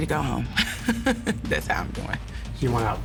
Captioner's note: laughs